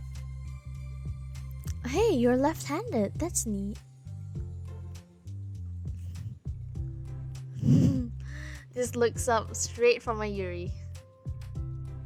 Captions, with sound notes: *laughs* This looks up straight from a Yuri